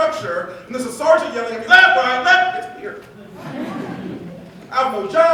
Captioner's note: laughter